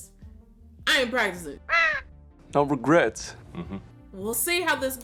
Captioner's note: bird squawk